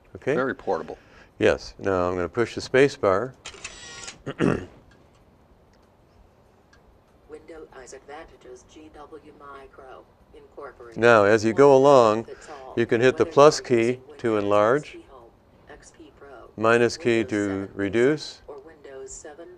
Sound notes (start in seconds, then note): 9.1 device speaking